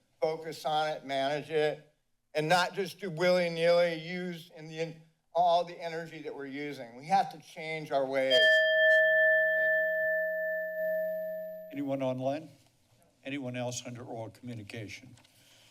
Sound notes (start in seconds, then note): 8.3 bell dings